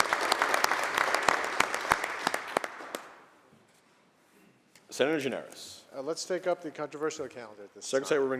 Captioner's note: applause